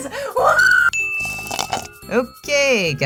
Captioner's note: sipping